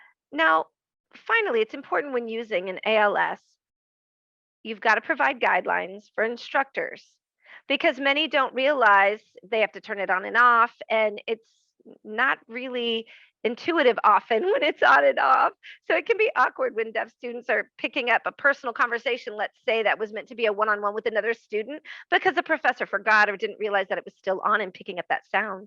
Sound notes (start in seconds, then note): 14.4 laughing